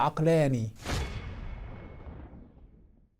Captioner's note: sound effect